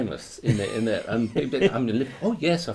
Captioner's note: laughs